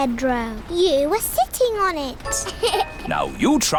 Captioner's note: laughs